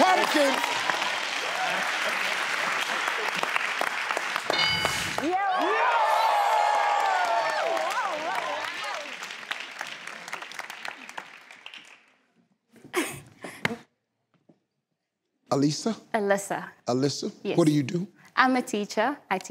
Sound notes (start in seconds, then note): 0.1 cheering; 5.2 cheering; 6.4 clapping